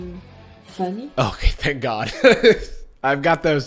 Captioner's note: whispers